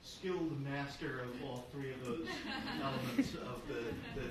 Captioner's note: audience laughing